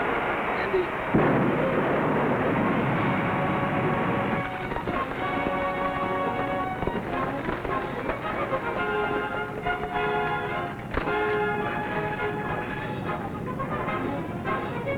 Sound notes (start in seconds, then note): 0.0 volcano blasting; 4.4 thrilling music